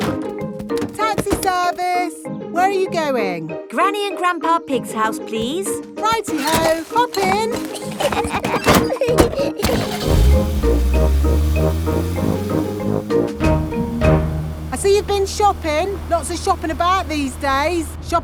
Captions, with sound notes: Taxi service! Where are you going? Granny and Grandpa Pig's house, please. -Righty-ho! Hop in. -(LAUGHING) (CAR ENGINE STARTS) I see you've been shopping. Lots of shopping about these days.